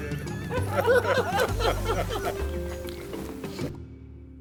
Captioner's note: all laughing